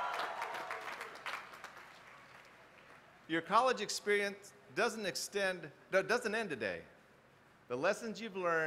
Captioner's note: applause